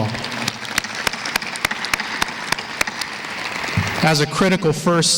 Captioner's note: applause